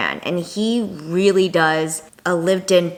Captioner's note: none